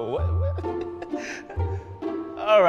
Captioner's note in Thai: หัวเราะ